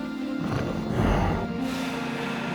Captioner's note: deep snarling